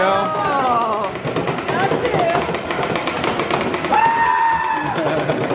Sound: rapid-fire balls shooting

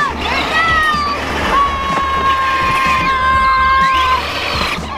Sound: child screams

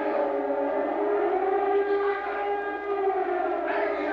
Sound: loud, steady blast of siren; soldiers yelling; loud, steady blast of siren

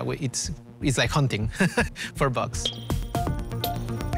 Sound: laughs

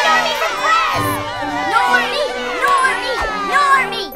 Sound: chanting

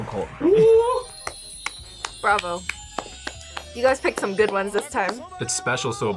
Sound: claps

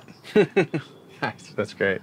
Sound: laughs

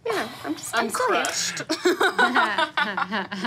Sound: laughs

